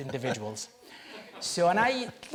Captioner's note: chuckles